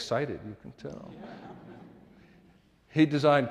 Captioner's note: audience laughing